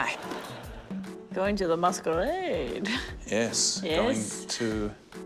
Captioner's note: chuckles